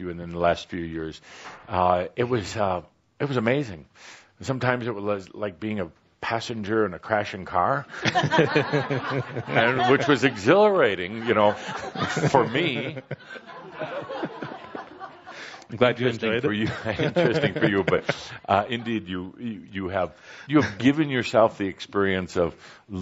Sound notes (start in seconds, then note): 7.9 laughter; 14.1 laughing